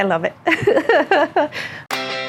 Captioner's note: laughter; up beat music plays